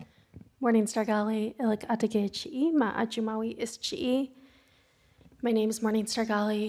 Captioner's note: speaking in foreign language